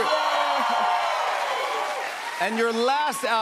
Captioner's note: cheers and applause